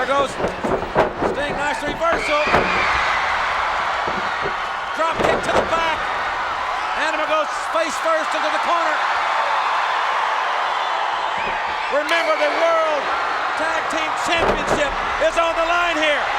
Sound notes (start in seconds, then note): 2.5 crowd shout; 8.8 crowd cheer; 16.1 crowd cheer